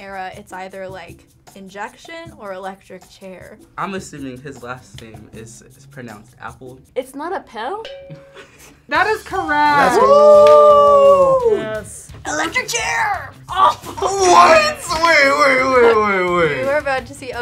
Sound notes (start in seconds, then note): 7.8 ding